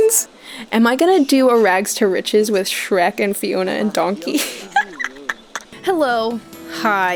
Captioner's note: cackling